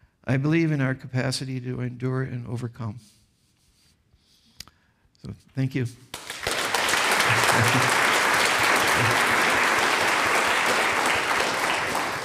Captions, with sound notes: I believe in our capacity to endure and overcome. So thank you. (audience applauds)